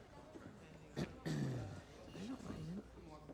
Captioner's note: quiet chatter